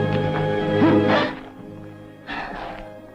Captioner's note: Natalie gasps